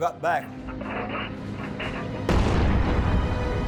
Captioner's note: engine roaring; bomb exploding